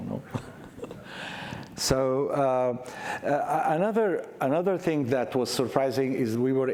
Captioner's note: chuckles